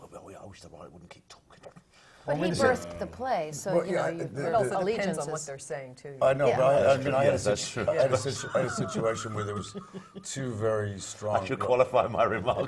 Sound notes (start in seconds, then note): 9.6 laugh